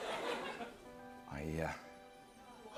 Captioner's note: voice breaking